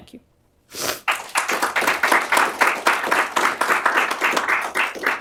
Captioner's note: applause